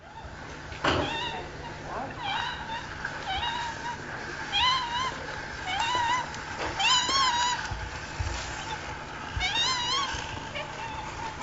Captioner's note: walker squeaking